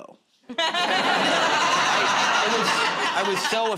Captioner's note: laughter